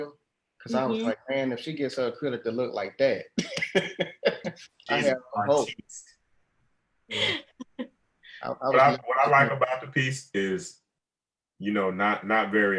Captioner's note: laughs